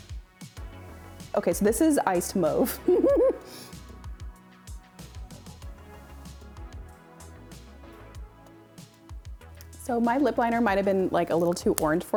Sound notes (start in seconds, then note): 2.8 chaotic giggle